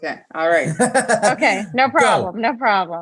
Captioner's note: laughs